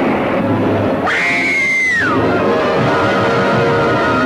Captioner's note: woman screaming; car clatters